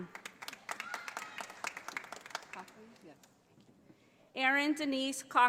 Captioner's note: audience applauding